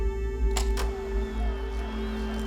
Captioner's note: projector flickers on